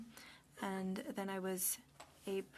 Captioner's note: speaking French